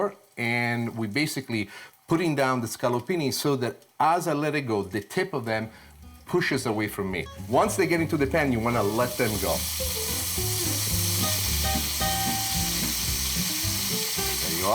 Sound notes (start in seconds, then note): 9.7 scallopini sizzling; 11.7 upbeat jazzy music